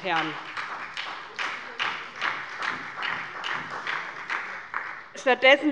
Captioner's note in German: Beifall bei der SPD